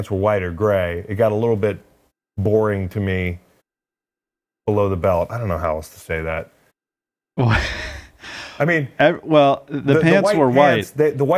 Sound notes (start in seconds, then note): 7.4 chuckles